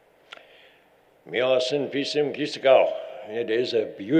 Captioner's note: foreign language